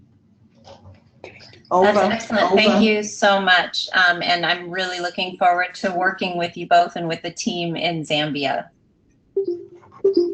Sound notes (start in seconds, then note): 1.3 murmurs; 1.3 mumbles; 9.3 beeps